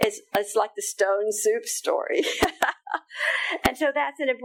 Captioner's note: laughing